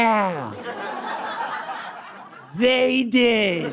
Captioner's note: audience cackles